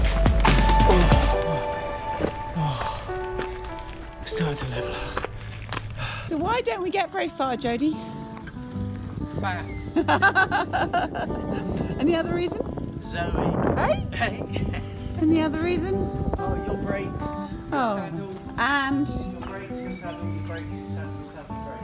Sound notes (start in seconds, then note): 9.9 laughter